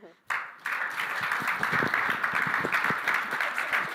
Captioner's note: applause